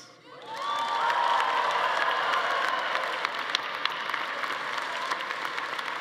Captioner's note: attendees cheering; everyone applauding